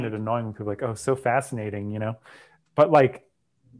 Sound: breath

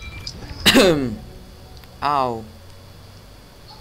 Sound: cough!

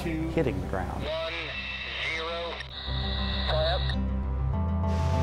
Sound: voice on radio

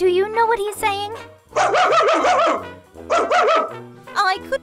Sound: bark

